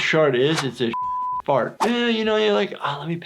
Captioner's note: beep